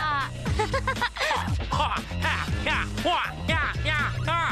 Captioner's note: chip grunting